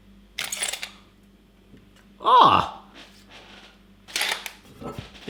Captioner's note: tape measure squeals